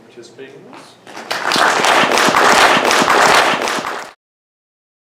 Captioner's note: audience applauds